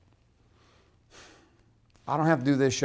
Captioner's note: sighs